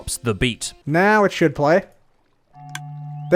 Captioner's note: music disc plays; click